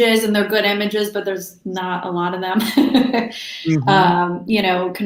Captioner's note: laughs